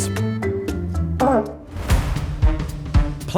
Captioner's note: short toot